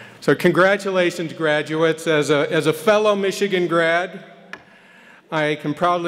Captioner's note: none